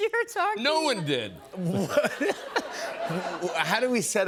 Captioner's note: laughter